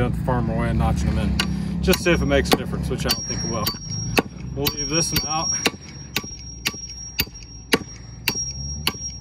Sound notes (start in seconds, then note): 5.6 hummer clacking